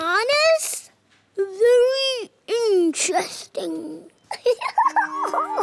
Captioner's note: giggles